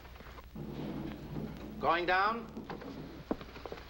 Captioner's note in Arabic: تعليق صوتي